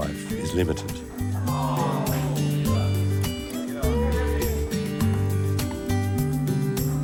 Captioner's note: groaning; upbeat music